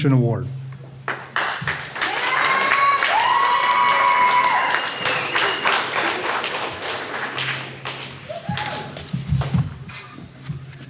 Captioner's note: graduates applauding